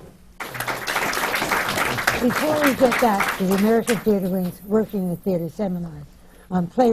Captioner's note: applause